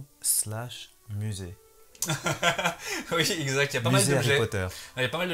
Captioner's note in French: rires